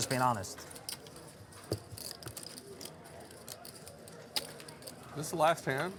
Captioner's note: poker chips clacking